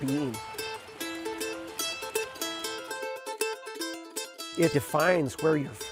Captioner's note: running water